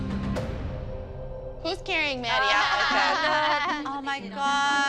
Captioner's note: laughter